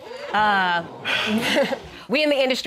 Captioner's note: crowd gasping